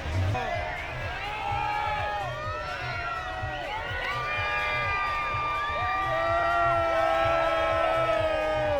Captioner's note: cheering